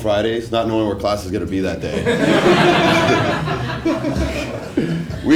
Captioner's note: laugh